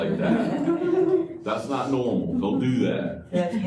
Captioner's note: laughter